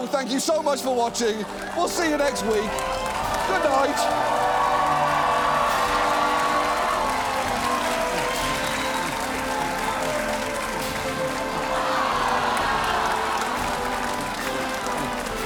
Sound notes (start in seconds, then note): 4.4 cheering, applauds continues